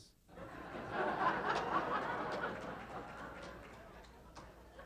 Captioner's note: audience laughing